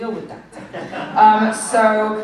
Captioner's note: laughter